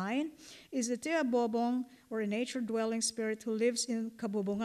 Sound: non-english

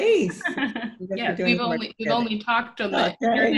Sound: laughing

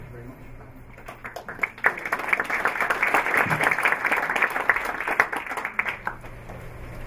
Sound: applause

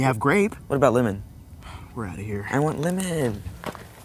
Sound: sigh

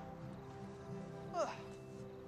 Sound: sighs

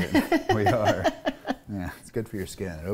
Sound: laughing

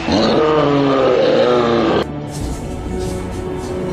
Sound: continued Growling

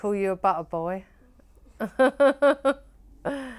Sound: laughs

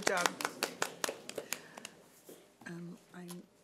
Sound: clapping

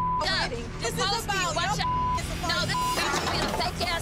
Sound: overlapping chatter; beep

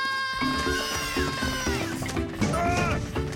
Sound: shouting; Bongolalas shouting

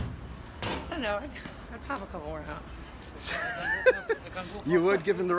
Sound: laughing

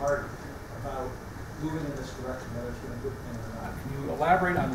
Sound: speaks faintly; speaks faintly

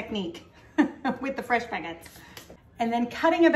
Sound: chuckling

